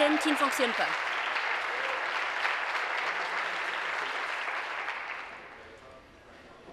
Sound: applause

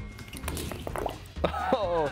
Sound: glugging

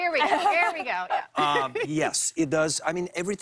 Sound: laughs

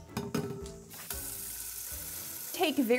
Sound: water running

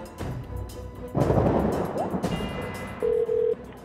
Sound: ominous music; thunder crashing; phone ringing

